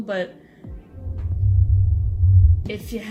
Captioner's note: ominous rumbling